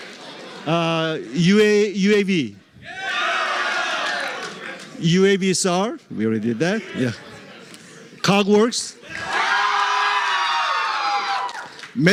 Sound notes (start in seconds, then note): 2.8 cheering; 9.0 cheering